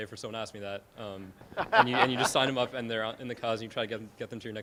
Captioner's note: laughing